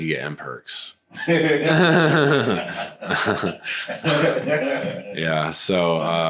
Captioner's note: laughter